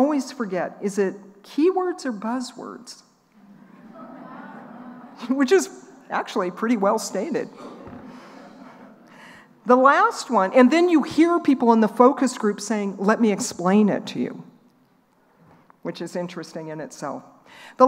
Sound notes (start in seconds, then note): 3.4 laughing